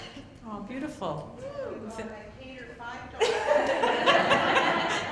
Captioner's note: laughter